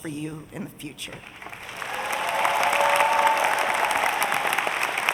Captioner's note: audience applauding